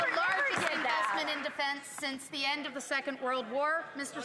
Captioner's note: some Applause